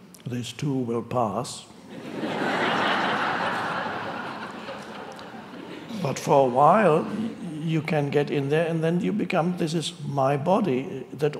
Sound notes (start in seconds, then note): 1.9 audience laughing